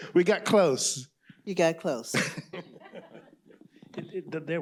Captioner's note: laughter